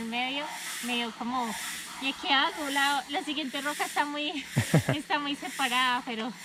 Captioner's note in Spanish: risas